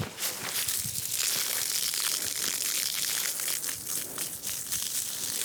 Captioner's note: water spraying and splashing